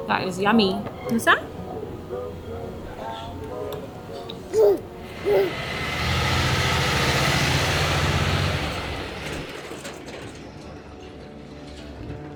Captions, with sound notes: That is yummy. Want some? (truck engine revs)